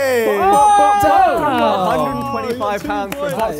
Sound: Sidemen cheer

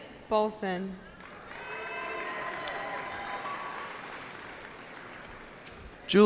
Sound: cheering

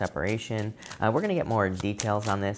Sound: cards shuffling

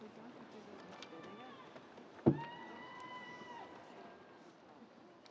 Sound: student cheering

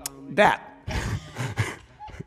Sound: laughing

